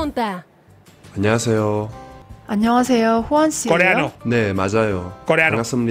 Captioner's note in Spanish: hablan en un idioma extranjero